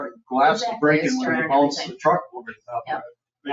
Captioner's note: people chattering